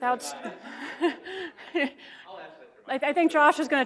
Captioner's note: laughs